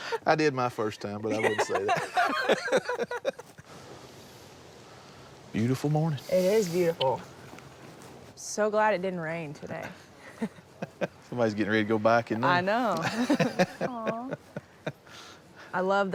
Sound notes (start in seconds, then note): 1.2 laughter; 4.8 laughs